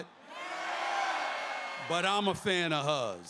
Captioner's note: crowd cheers